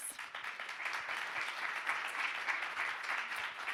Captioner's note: audience clapping